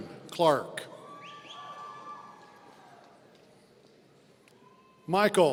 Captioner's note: audience cheering